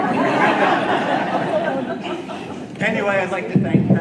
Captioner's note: audience laughing